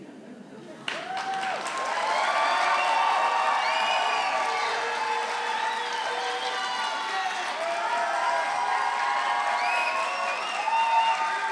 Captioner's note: applause